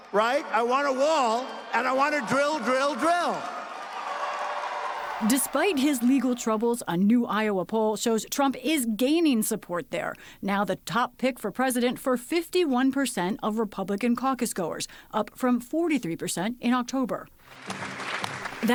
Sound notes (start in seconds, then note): 5.3 cheering and applause